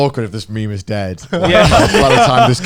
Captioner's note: all laughing